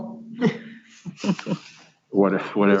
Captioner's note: laughing